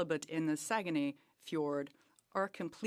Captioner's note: speaking French